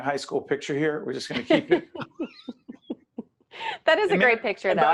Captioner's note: both laughing